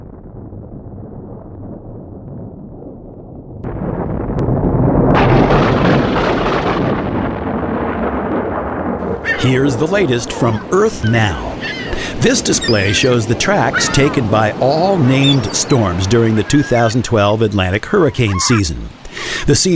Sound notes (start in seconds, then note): 5.1 loud Thunder; 5.1 rumbles of Thunder